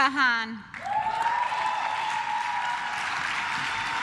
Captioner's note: claps